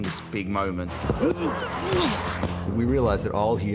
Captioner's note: grunting